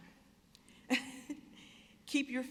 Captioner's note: chuckling